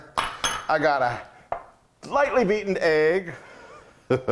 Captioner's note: laugh